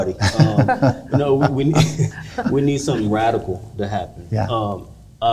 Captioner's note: all laughing